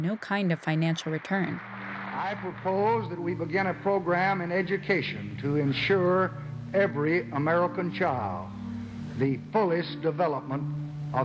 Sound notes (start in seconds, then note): 1.9 soundbite of archived recording